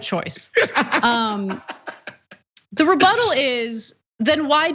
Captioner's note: laugh